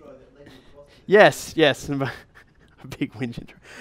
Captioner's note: voiceover; chuckles